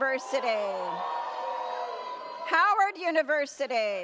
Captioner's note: audience cheers